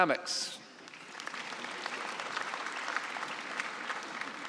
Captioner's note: applause